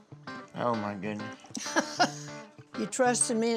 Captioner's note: laughs